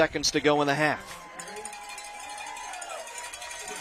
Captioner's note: applause